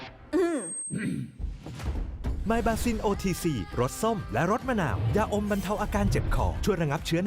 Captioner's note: clear throat